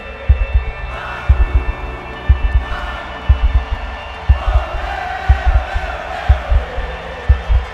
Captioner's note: crowd Chants